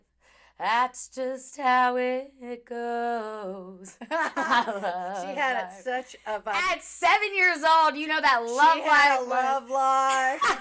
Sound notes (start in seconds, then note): 4.1 laughing